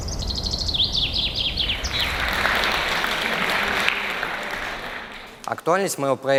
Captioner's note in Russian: Аплодисменты